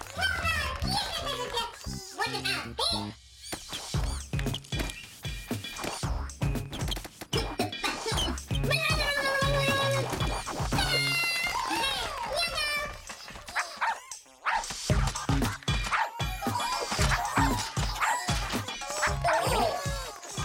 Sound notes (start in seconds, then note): 8.6 babbling; 13.5 Lulu barking; 15.8 Lulu barking; 17.9 Lulu barking